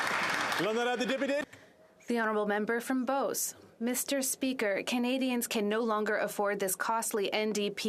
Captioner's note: applause